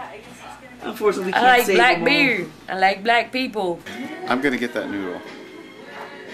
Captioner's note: none